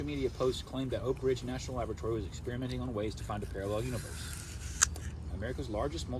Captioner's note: munching on an apple